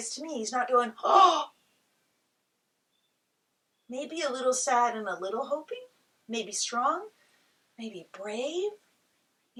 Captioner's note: gasp